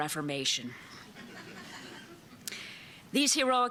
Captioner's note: laughter